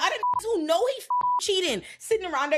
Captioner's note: beep